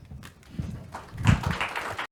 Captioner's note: audience applauding